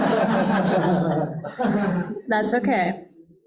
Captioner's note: audience laughing